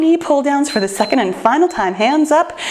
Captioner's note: timer beeps